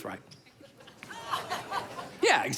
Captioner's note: crowd laughs